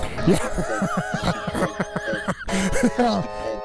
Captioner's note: laughing